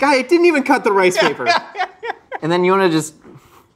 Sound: laughs

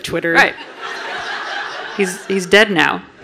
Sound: audience laughing

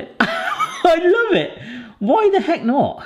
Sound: laughing

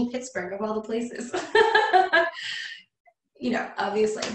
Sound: laughs lightly

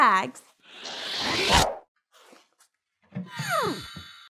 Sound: whooshing

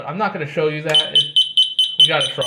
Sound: obnoxious, pulsating beeping

